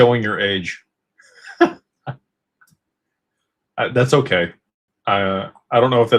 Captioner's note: laughter